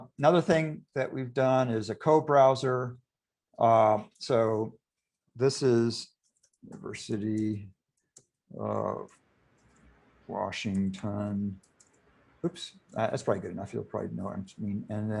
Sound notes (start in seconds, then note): 6.1 typing